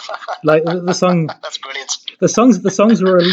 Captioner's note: laughs